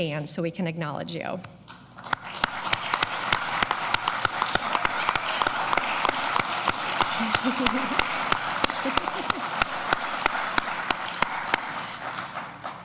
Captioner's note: applause